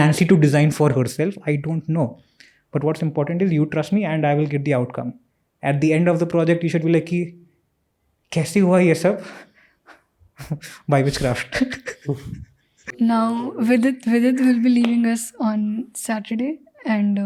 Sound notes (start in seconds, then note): 9.7 speaks in Hindi